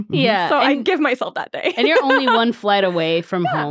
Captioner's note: laughing